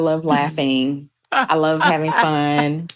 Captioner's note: chuckles